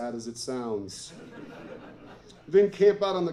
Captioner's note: laughter